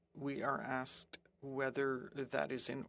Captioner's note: speaking French